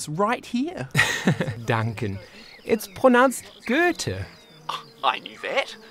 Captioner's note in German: lacht